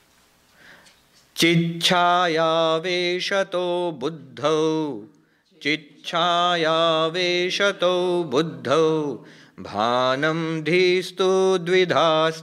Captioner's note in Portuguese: Recitando verso do livro em sânscrito